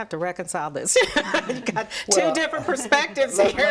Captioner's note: laughs